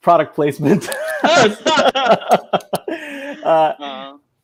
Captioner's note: laughing